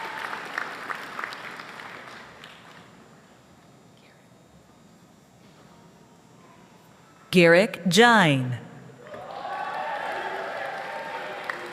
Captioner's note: applause